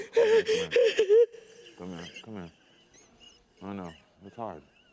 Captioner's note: continues crying